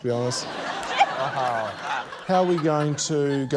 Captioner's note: laughter